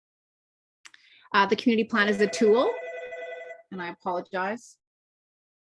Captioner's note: phone Interruption